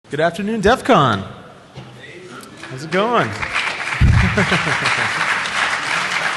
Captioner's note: applause